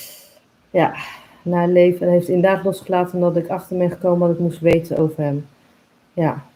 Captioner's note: sigh